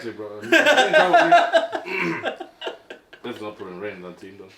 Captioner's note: laughing